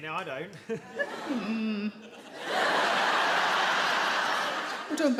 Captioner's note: audience laugh